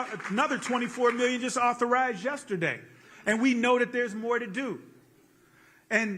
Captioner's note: applause